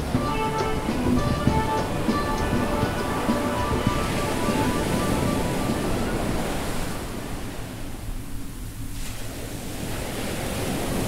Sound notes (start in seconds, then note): 0.0 mellow guitar music; 5.8 waves crashing loudly